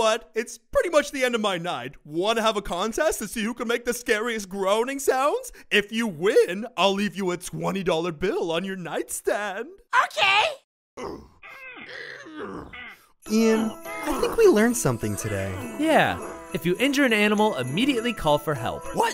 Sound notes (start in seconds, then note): 11.0 grunting noises